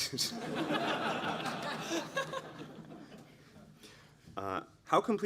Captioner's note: laughter